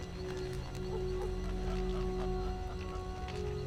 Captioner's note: laughing